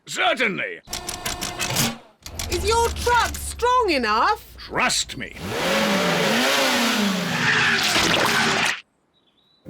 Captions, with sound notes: Certainly. -Is your truck strong enough? -Trust me. (REVS ENGINE)